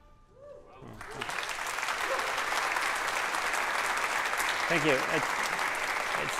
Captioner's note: applause